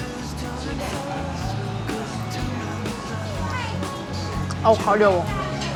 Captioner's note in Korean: 긁적긁적